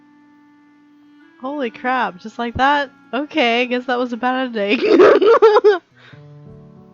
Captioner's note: laughs